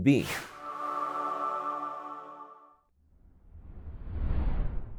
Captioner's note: whimsical sound